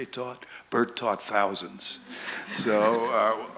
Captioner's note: audience laughs